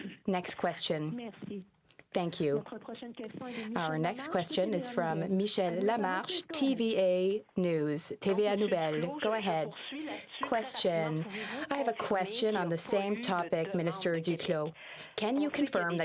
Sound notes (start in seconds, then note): 7.6 speaking French